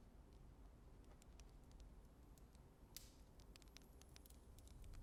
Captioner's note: fire crackling